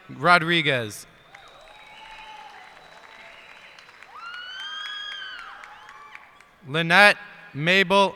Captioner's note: cheers and applause